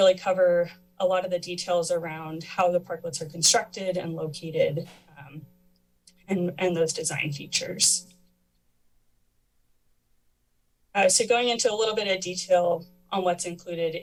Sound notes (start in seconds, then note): 8.1 pause